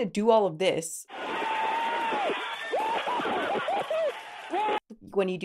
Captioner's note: workers cheering